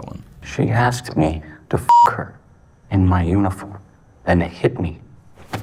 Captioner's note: beep